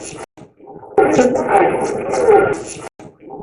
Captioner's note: radio scratching; radio voice